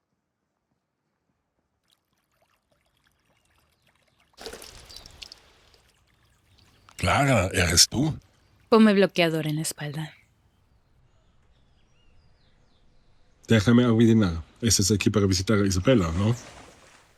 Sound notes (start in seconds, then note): 4.7 water trickling; 11.9 birds chirping